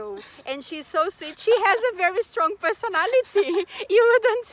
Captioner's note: risos